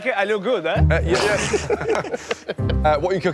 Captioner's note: Risos